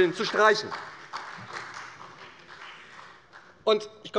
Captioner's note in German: Beifall bei der SPD